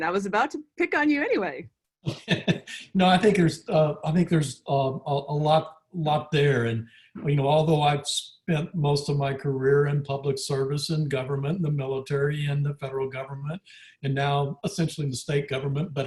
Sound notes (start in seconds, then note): 2.0 laughs